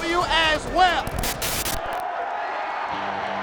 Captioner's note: static hissing; crowd cheering; upbeat music